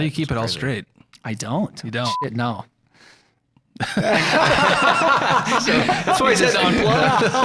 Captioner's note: laughter and chatter